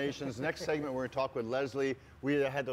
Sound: laughs

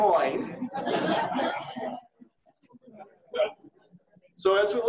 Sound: audience laughing

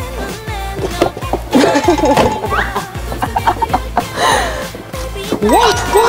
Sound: laughing

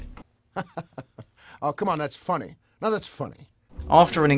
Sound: laughs

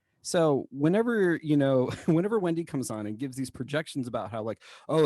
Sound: laughter

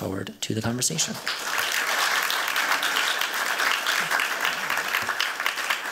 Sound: applause

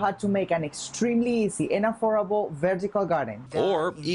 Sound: speaking in native tongue

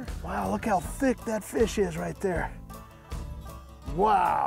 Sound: none

